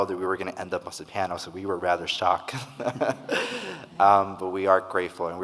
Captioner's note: laughs